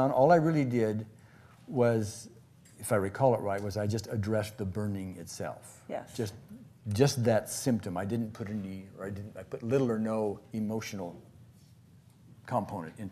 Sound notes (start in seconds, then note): none